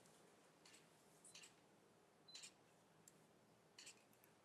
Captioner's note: camera shutters